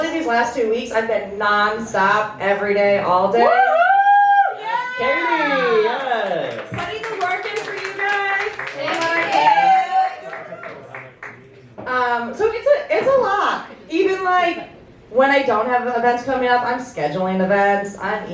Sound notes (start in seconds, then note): 3.4 cheering